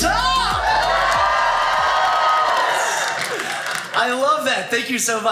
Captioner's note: audience cheers